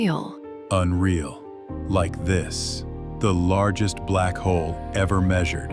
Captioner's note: leans in slightly, voice deep